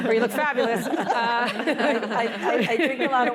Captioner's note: laughter